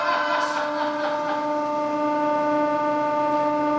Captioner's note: battery smoke hissing